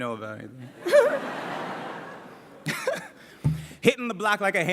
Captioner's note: laughter